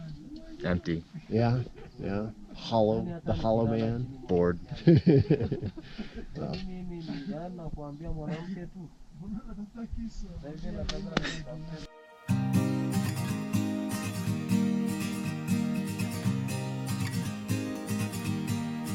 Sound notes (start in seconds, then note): 4.6 laughs